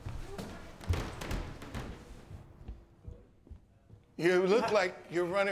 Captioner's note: footsteps tapping